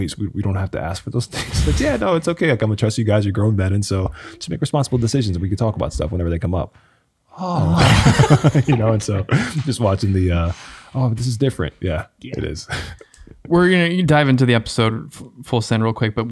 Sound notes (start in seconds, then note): 7.5 men laughing